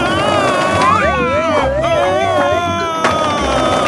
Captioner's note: shouting